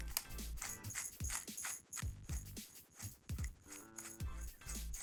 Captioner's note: pepper shaker grinding